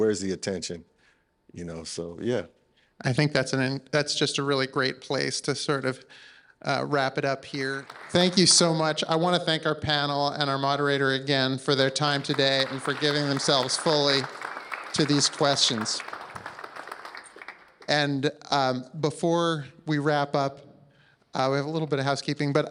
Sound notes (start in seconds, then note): 15.8 applause